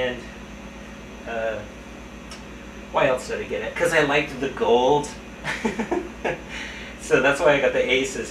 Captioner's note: laugh